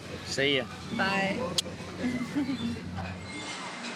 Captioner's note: smooch; giggles